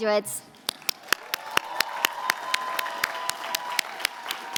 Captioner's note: applause